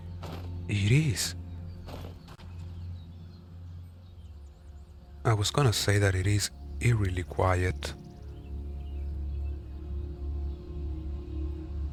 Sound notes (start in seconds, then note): 1.9 wood chopping sounds in the distance